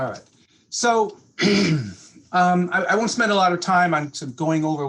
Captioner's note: clears throat